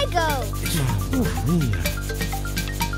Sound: soft moans

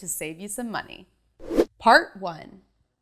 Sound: animation whooshes

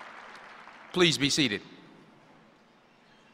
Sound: applause

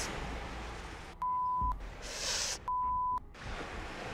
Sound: beeps

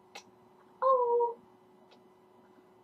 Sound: kisses

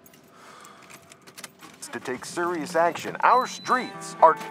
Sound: sighs; person On Radio

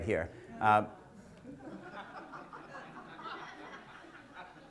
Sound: audience laughter

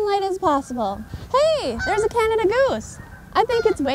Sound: geese honking

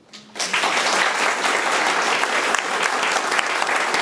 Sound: room applauds

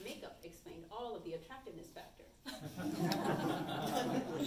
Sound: audience chuckles

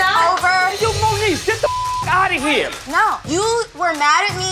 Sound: beep sound

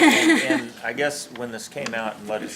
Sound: laughs

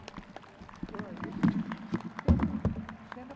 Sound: crowd clapping

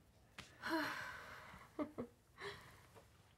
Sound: sighs, chuckles

